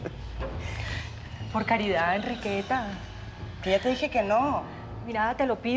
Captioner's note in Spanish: risas